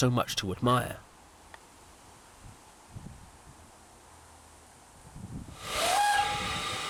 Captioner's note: train whistle